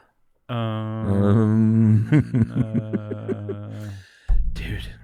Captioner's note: laughing